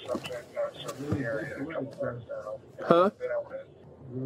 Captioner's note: radio chatter